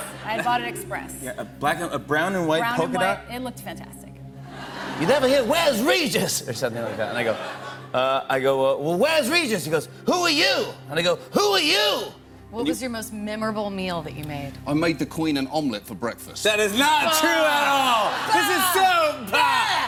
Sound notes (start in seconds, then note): 4.8 normal voice